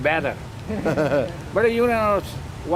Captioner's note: laughing